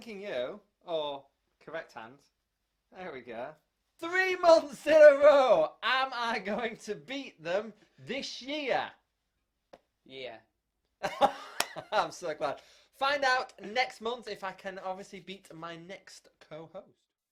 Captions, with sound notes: Thanking you, or correct hand there we go THREE MONTHS IN A ROW! Am I going to beat them this year? Yeah [laughter] I'm so glad Find out next month if I can obviously beat my next co-host